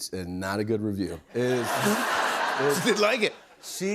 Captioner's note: laughter